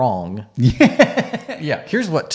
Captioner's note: laughing